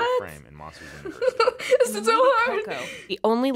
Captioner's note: anxious laughter